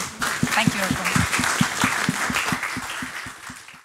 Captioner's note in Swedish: applause